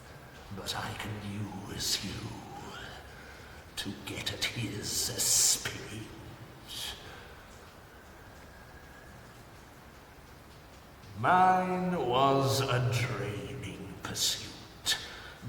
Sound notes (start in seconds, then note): none